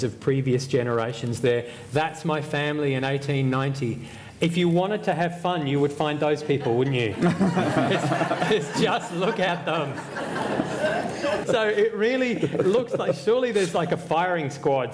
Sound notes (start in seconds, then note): 6.5 laughter